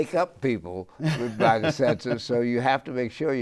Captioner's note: laughs